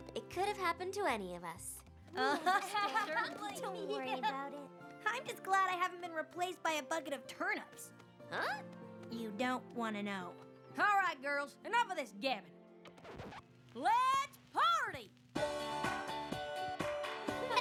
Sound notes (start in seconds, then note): 2.2 laughter; 12.8 record scratches; 15.4 <i> DANCE MUSIC PLAYS</i>